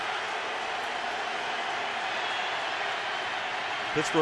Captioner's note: crowd cheering